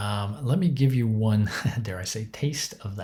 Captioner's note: chuckles